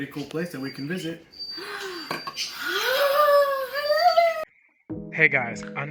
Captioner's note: gasp